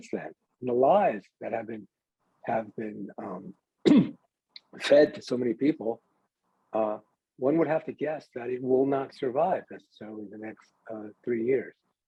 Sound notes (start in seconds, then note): 3.8 clears throat